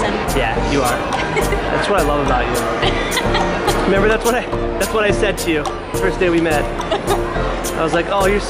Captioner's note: hahahaha!